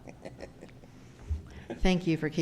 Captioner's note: he chuckles